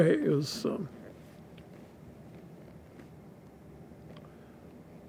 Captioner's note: pauses 8 seconds